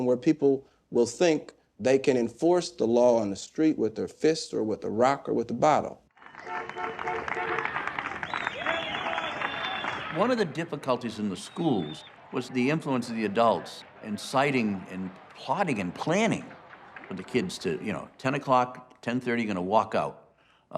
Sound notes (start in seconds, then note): 6.3 car horns honking, people applauding and whistling